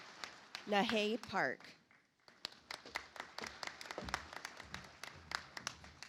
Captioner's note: audience applauds